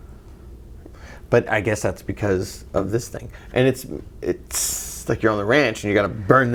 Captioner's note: tss